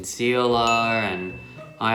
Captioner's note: dinging